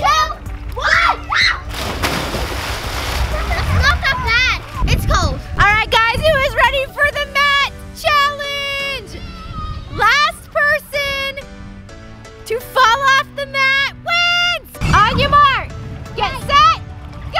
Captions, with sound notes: - TWO! ONE! (scream) (splash) - It's not that bad. - It's cold. - Alright guys, who is ready for the Mat challenge? Last person, to fall off the mat wins. On your mark, get set, GO!